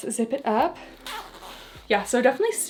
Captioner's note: zipper screeching